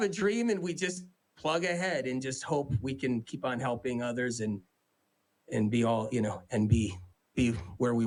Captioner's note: laughs